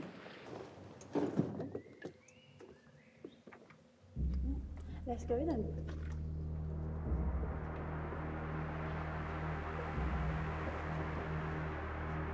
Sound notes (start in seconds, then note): 1.1 bags thudding; 1.6 birds chirping; 7.1 ominous music